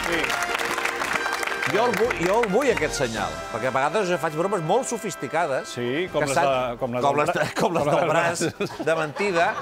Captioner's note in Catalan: aplaudiments